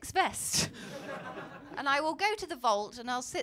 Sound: laughter

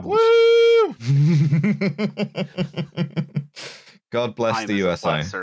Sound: chuckles

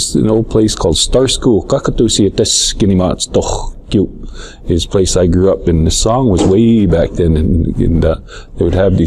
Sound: blackfeet spoken

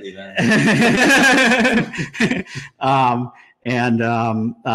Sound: both laughing

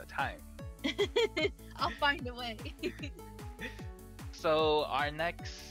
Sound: both laugh

